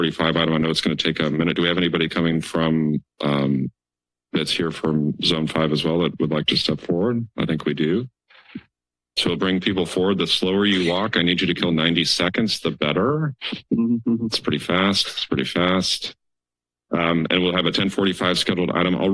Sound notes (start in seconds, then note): 13.4 laugh